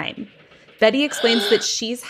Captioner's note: gasps